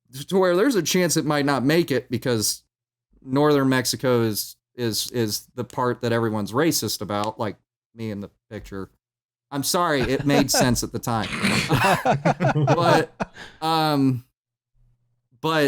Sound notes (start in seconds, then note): 10.0 laughs; 11.2 laughter